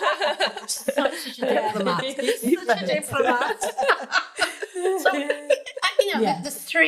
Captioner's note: everyone laughing; laughing